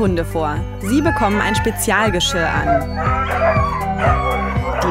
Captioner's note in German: Lautes Jaulen